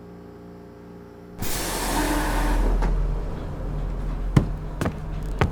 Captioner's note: door opens